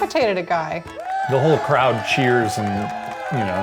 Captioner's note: applause